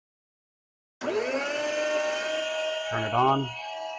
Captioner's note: slicer whirring